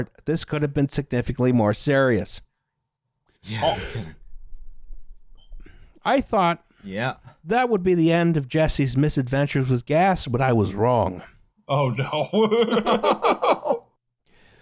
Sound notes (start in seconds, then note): 3.4 yawns; 12.3 laughs